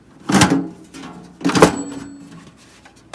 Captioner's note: ding